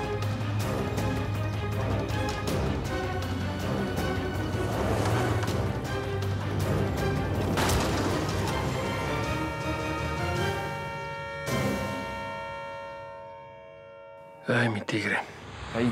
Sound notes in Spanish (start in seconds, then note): 9.5 Estruendo; 11.2 Claxon